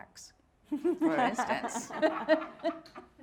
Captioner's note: all laughing